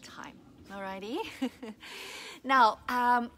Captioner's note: laughs